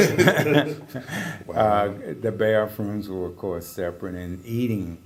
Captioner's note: laugh